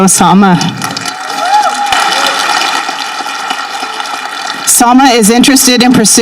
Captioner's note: people applauding and cheering